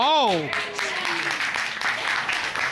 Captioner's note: applause